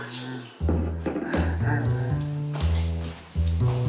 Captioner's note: chuckles